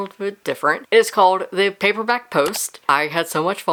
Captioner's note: mouse Click